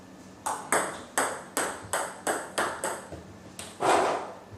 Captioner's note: ball ping pong hitting continues